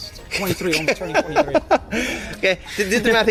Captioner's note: laughs